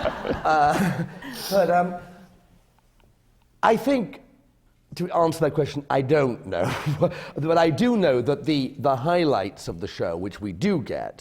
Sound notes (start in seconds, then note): 0.0 laughter; 4.5 laughs